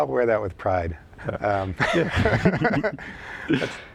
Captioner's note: laughter